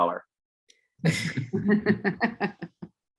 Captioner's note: laughter